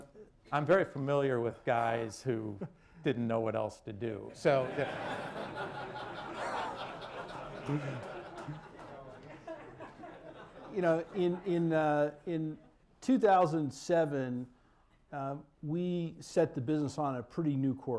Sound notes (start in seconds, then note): 7.3 laughter